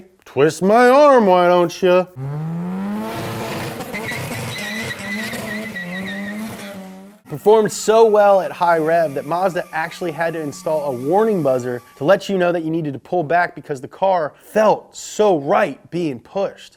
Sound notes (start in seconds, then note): 2.1 engine revving; 2.1 tires squealing